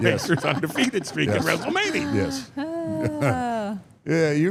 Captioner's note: chuckles